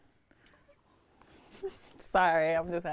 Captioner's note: laughs